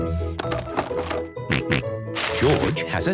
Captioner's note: rattling; snorting